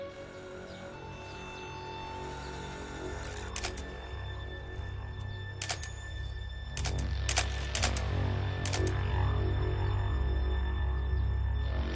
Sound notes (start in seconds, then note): 3.2 shutter sounds; 7.2 shutter sounds